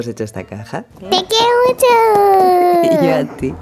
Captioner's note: tap tap tap; laugh